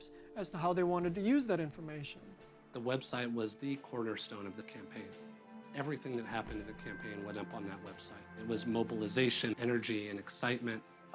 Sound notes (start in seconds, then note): none